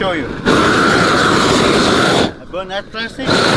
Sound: air whooshes against plastic

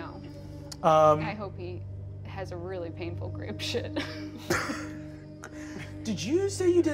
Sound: laughs

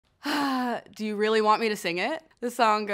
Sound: sighing

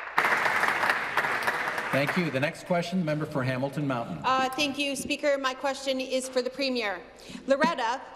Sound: applause

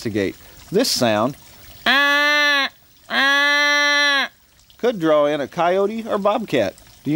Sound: wildlife call

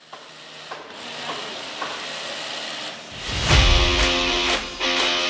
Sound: construction tools buzzing; upbeat music

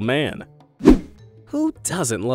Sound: image whooshing

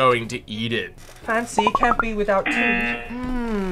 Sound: buzzer

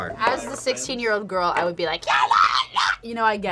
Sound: yells

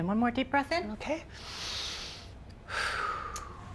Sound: inhales

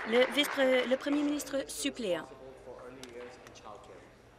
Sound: applause

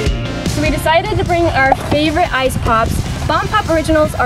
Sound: popping

